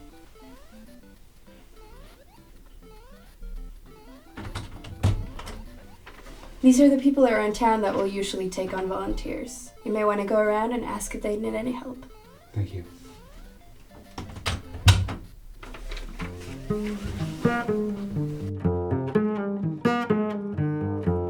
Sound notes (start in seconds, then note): 0.0 video game music; 3.4 door opens